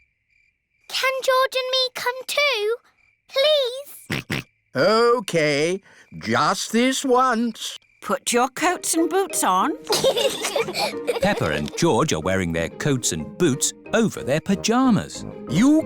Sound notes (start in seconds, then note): 4.0 snorts; 9.8 both giggle